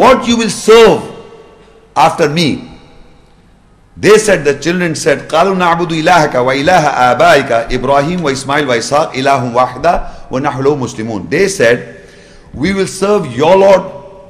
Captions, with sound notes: what you will serve after me? They said the children said (Arabic) they said we will serve your Lord,